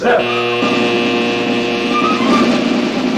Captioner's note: alarm buzzing